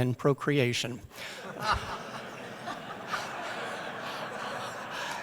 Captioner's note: laughter